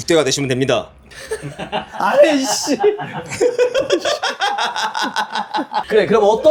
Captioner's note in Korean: 웃음